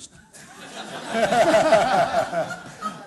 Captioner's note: laughter